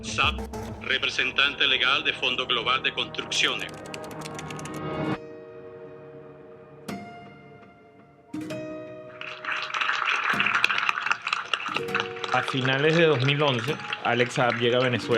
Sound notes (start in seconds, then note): 9.1 applause on laptop